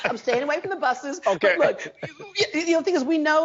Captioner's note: interviewer chuckles